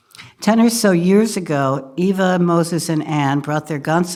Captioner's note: none